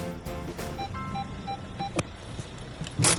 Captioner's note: beeping